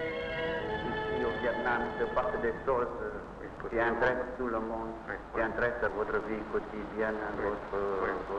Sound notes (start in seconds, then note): 1.9 speaking in foreign language